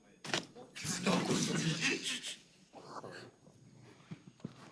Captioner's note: attendees laughing